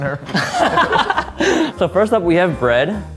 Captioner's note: men laughing